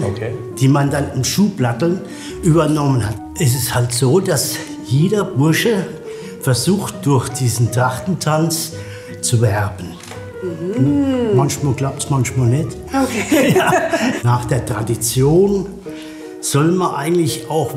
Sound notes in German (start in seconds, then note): 13.0 lacht